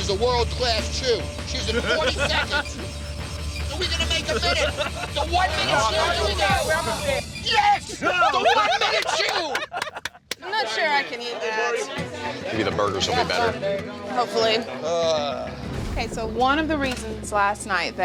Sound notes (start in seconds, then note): 1.3 timer beeping; 1.5 lauging; 8.9 applauding; 9.6 experts laughing